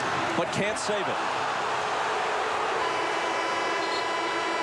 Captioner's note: crowd booing